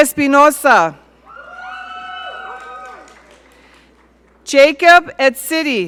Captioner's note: audience cheering